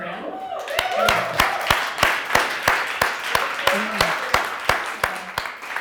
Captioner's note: audience cheering and applauding